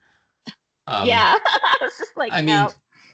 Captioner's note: laughing